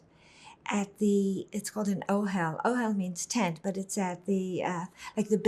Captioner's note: hebrew